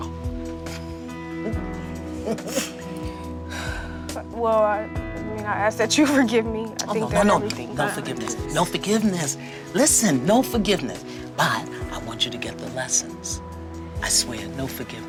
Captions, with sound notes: [ CHUCKLES ] [ SIGHS ] WELL, I MEAN, I ASK THAT YOU FORGIVE ME. OH, NO. NO, NO. NO FORGIVENESS. NO FORGIVENESS. LISTEN, NO FORGIVENESS. BUT I WANT YOU TO GET THE LESSONS. I SWEAR -- NO FORGIVENESS.